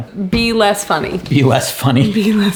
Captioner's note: chuckles; laughs